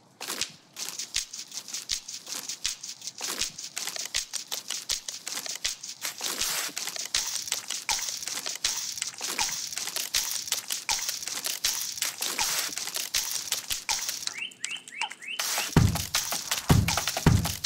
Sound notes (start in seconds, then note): 0.5 rhythmic scratching; 3.5 rattling; 5.9 layered natural sounds; 14.1 warbling